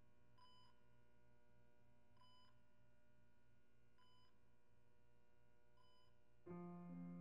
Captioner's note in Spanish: monitor cardíaco pitando; música tierna de piano